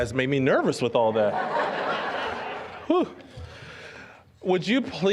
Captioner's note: audience laughing